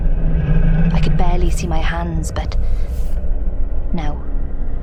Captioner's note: distant growling